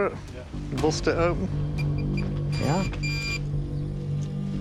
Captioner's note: beeping